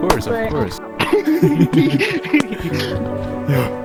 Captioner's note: monkey friends laughing